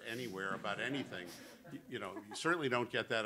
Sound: laughter

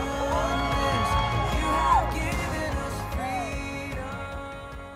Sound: applause

